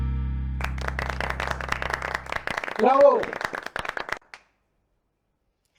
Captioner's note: applause